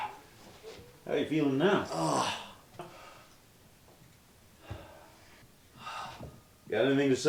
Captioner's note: henchman groans